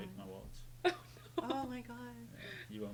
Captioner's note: laughing